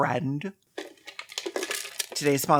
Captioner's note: life savings rattling